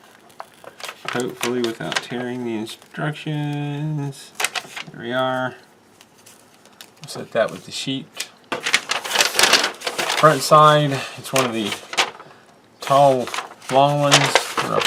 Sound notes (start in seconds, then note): 8.5 paper crinkles